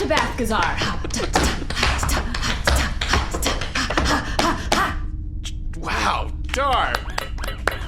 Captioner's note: C-53 and Pleck enthusiastically clap